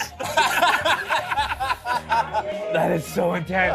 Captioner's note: laughter